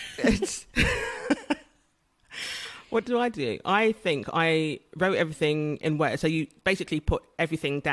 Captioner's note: laughs